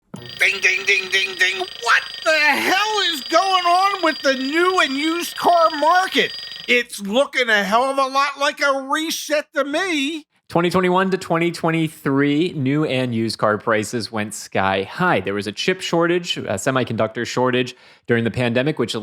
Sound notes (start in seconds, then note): 0.0 alarm ringing